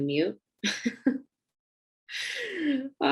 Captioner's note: giggling